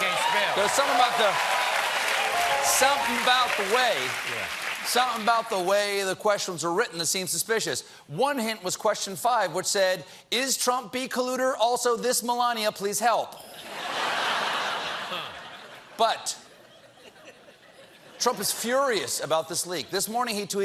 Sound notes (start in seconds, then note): 1.9 applause; 16.4 laughter